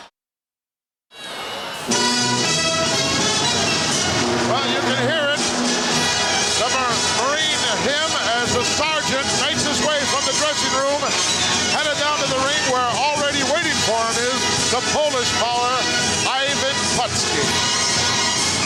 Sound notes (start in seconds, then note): 1.2 audience cheering; 2.5 triumphant music